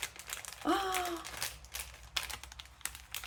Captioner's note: rustling packet; gasp